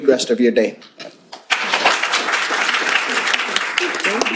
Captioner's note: applause